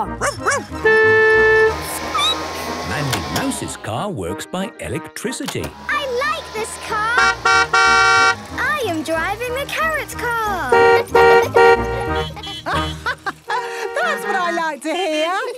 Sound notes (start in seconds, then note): 0.2 barking; 0.3 squeaking; 0.5 honking; 7.0 honking; 10.2 horns honking; 10.7 honking; 11.4 laughing